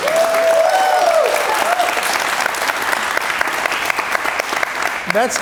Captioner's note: cheers and applause